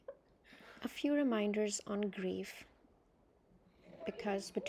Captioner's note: voiceover